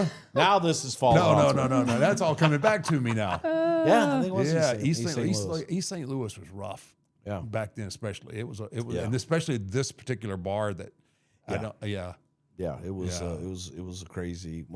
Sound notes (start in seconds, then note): 1.4 blue vested woman laughing; 3.4 blue vested woman exclaims; 3.8 laughing